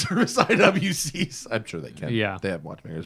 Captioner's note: laughter